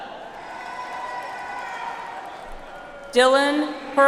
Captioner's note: audience applauds